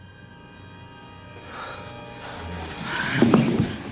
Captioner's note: inhales sharply